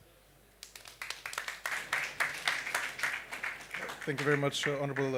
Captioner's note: applause